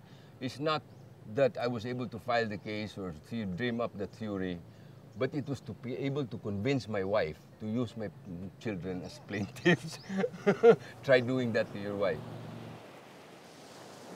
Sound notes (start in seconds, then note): 9.2 laughs